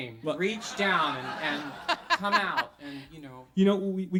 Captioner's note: audience laughs; host laughs